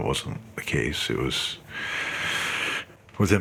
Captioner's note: breathes deeply